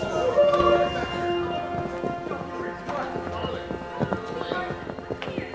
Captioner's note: yelling